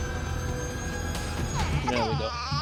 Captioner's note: baby crying